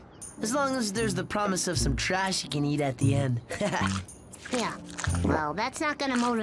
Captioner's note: laughs